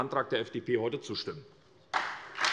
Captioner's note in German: Beifall SPD und Freie Demokraten